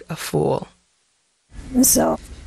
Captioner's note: soundbite of archived recording